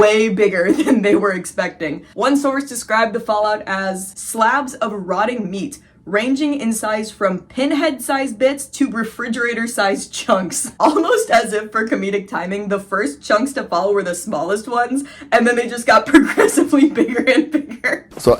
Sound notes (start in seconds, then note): 10.3 giggling